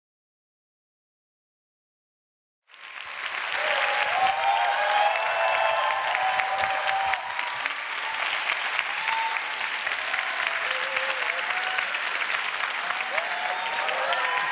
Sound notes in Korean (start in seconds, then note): 2.6 환호와 박수